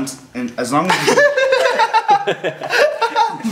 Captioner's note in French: Rires